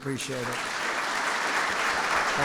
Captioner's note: applause